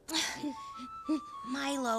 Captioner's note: shuddering